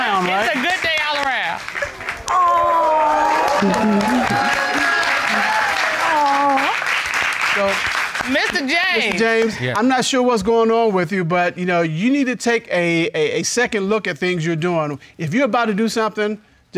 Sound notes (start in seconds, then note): 3.5 giggling; 3.7 all applauding